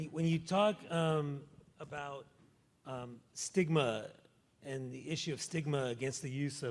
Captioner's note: none